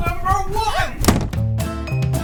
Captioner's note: door slam